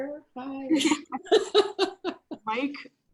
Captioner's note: laughing